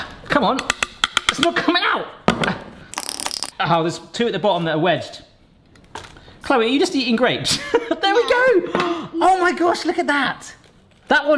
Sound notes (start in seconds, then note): 8.4 laughs